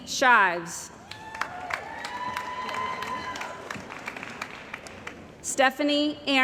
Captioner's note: cheering & Applause